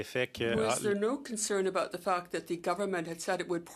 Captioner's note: speaking French